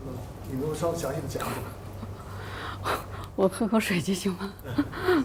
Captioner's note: speaking foreign language